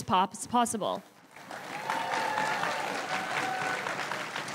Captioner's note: crowd cheering and applauding